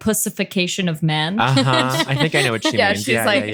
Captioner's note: laughs